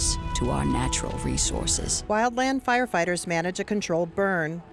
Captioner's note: fire crackling